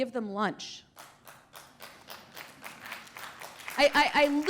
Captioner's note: applause